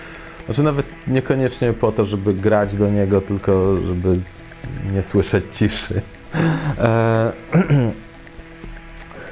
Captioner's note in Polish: śmiech